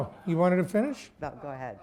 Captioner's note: laughter